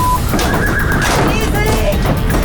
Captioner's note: clattering; horse whining